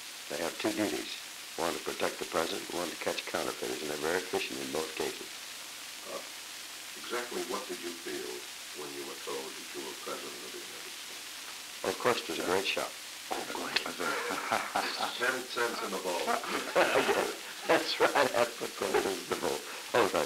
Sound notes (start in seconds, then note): 13.7 laughter; 15.2 production chatter; 16.6 laughter